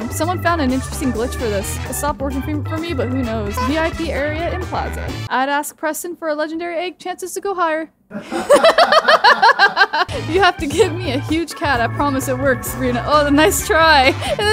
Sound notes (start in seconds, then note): 8.1 laughing